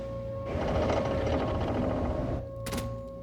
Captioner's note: engine dies